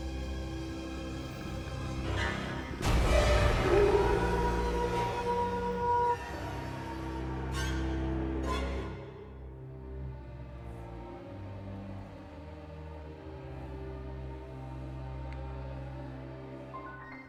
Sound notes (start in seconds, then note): 4.8 Eric howling